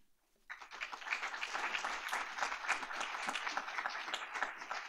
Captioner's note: applause